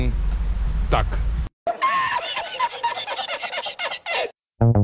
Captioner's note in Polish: śmiech